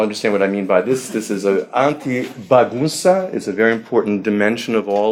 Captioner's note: speaking foreign language